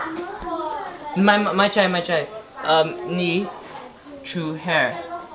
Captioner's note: foreign language